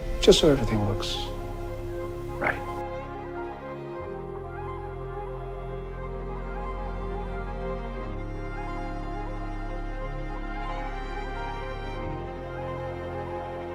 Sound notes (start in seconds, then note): 2.5 voiceover